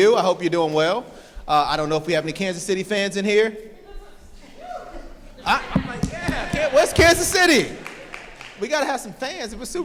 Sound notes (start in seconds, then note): 4.8 participant clapping